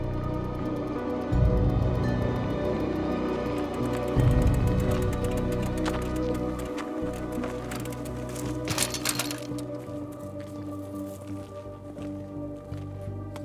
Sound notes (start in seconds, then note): 1.9 intense music continues; 8.8 bikes rattle; 10.9 eerie music